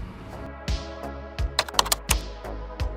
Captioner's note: keyboard clicking